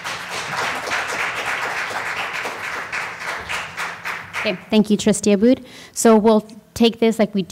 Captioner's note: applause